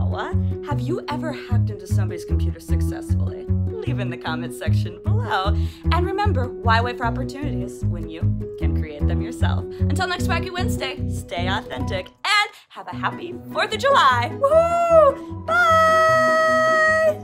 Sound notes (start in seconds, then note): none